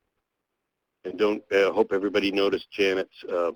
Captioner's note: voiceover